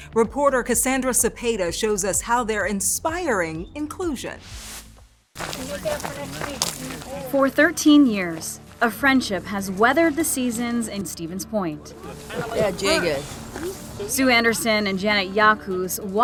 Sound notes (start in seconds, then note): 4.3 graphic whooshing; 5.4 people chattering